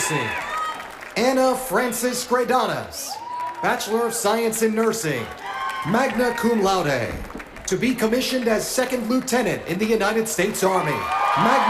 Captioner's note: cheers and applause